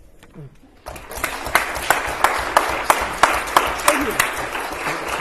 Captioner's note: applause